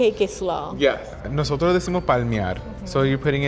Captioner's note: speaking Spanish